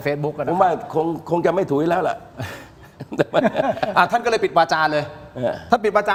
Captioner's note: laughs